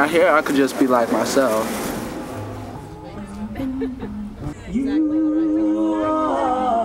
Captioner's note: crowd chattering